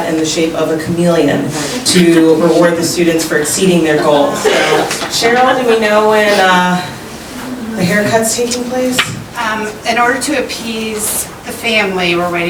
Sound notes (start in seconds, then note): 4.1 audience chuckles